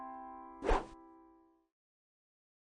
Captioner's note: piano intro playing; swooshes